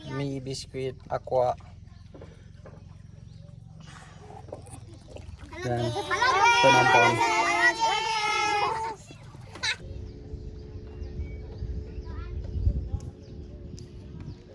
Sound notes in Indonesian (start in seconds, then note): 5.7 menangis